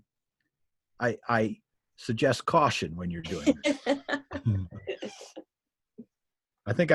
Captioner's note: laughing